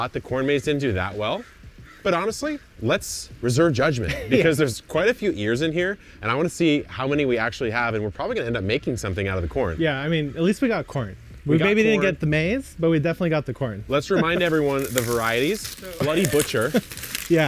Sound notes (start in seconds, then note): 14.0 laughing; 14.2 corn rustling